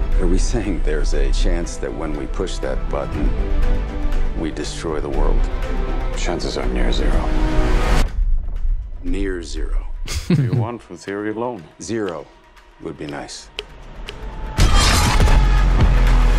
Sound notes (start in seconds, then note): 6.2 ominous music; 8.6 ominous music; 10.0 laughs; 14.5 ominous music